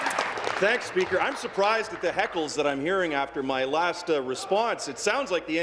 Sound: applause

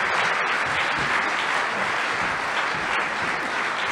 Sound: applause

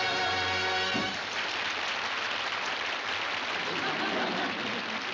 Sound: applause

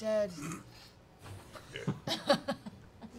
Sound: laughing

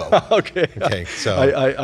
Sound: laughing

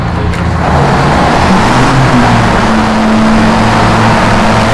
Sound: boat roars

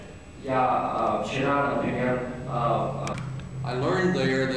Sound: non-english speech

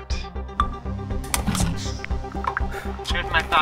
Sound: can lid cracks open

